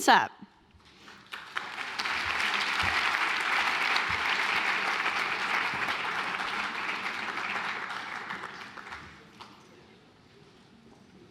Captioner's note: applause